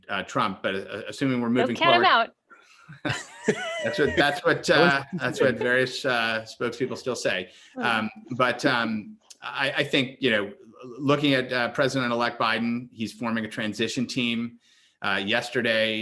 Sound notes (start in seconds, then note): 3.0 laughter